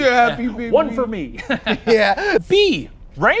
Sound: chuckles

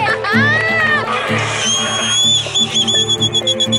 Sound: whistles

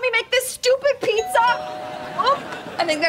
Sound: doorbell ringing

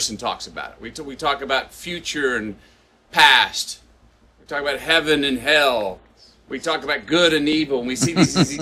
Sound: Sadhguru laughs

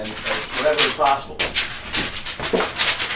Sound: tearing of paper

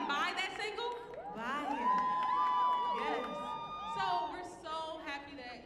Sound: audience cheering

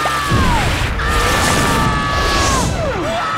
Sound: screaming; screams

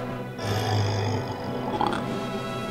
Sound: burp

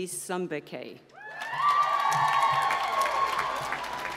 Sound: applause

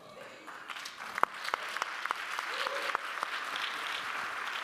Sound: audience applauding

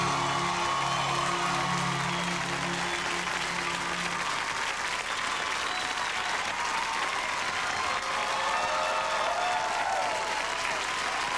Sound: cheers and applause

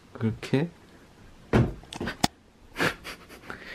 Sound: thud

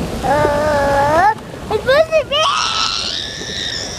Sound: screaming

